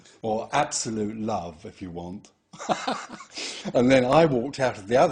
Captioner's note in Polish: śmiech